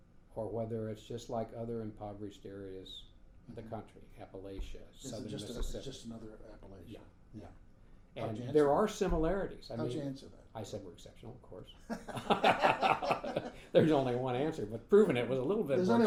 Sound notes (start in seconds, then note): 11.9 laughing